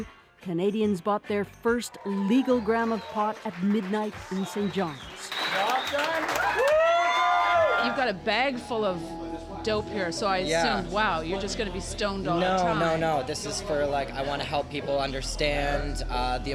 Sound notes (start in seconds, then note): 5.4 cheers